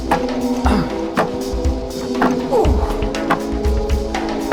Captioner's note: groaning